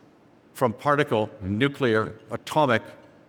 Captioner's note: none